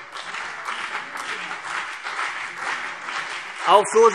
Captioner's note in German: Beifall CDU und BÜNDNIS 90/DIE GRÜNEN - Zurufe Freie Demokraten